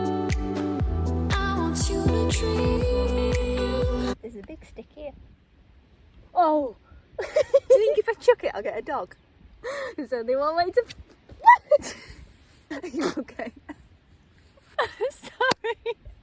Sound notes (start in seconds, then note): 12.7 laughter